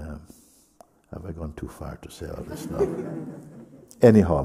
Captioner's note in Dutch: gelach